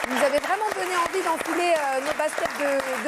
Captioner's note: applause